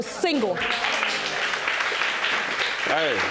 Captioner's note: applause